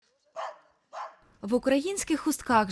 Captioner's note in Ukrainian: Гавкіт собак